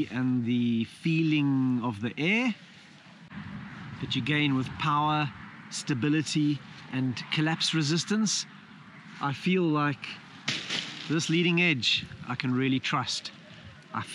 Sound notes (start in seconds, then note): none